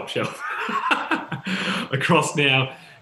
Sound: laughs

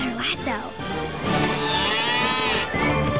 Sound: mooing

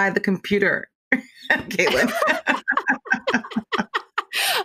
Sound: laughing

